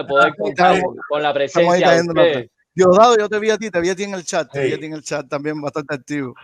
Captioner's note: laughs